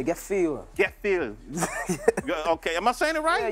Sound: laughing

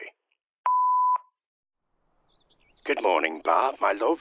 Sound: phone beeps

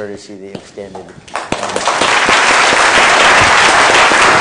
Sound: applause

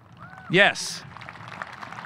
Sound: audience cheering

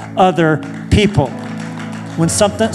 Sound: applause

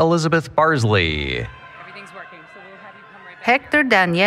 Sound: applause, Cheering

